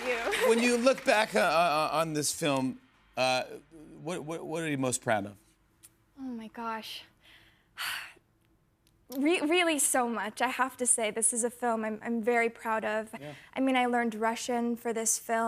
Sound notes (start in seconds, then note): 7.7 sighs